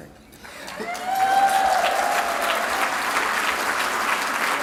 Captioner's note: applause